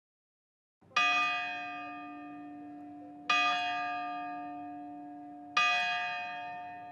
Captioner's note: church bells ring